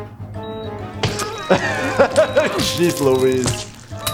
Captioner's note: laughs